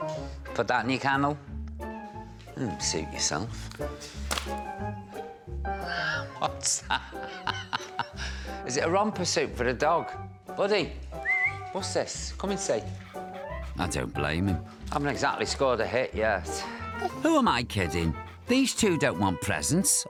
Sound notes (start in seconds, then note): 6.6 laughs; 11.1 whistles